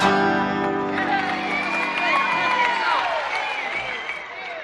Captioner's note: music ends, cheers and applause